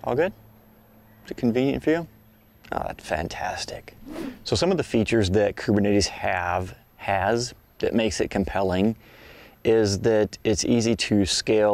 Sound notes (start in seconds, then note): 3.9 swishing sound